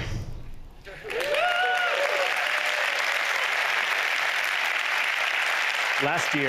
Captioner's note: applause